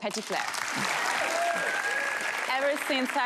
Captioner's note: audience applause